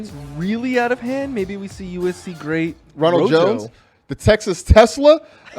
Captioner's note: laughs